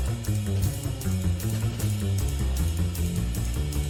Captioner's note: none